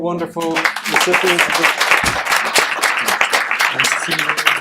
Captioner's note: applause